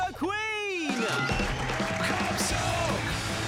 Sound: cheering

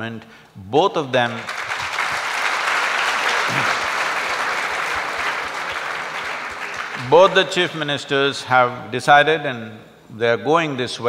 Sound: applause

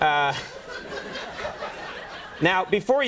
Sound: laughter

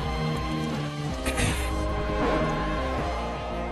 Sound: batman clears throat

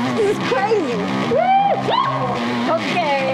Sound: yelp

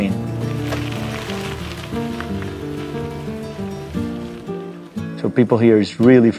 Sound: soft music; bicycle wheels rattling

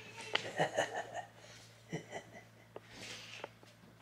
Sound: silently giggles

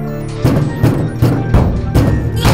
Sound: banging

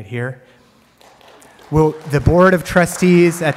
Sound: audience applauds

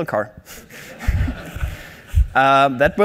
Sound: laughing

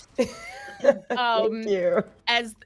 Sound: laughs

